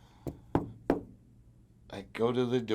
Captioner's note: knocking on wood